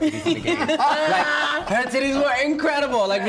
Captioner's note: laughs